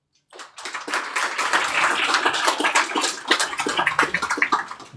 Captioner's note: congregation applauding